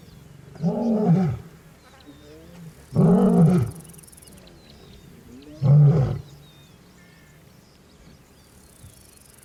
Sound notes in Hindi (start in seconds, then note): 0.5 दहाड़; 2.9 दहाड़; 5.5 दहाड़